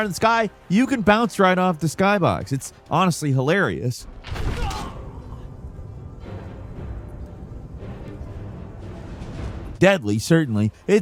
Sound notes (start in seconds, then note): 4.1 character grunts; 5.2 suspenseful music